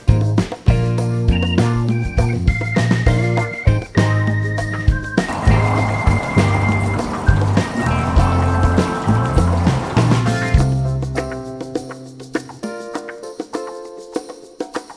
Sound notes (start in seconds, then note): 5.2 running water